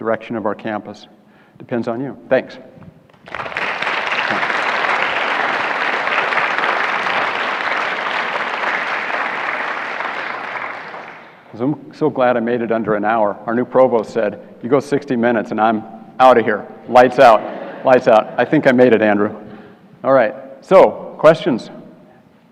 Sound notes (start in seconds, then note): 3.1 applause